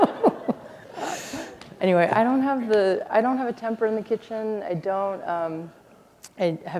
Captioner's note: laughter